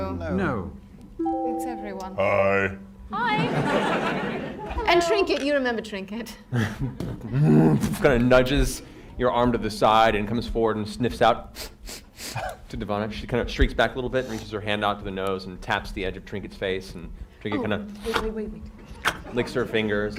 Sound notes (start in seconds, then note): 6.6 bear noises